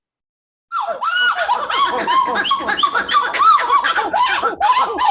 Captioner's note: monkeys singing